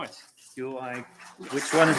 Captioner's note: applause